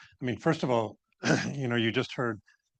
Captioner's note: clears throat